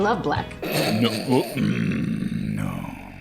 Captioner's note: growling; laughing